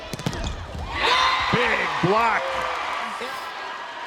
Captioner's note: crowd and players cheering